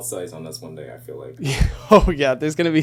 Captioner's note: laughing